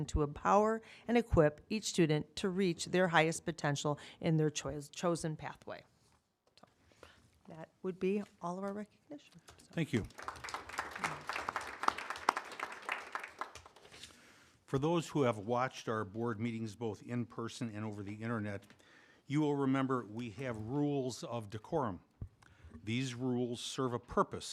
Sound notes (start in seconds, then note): 9.5 applause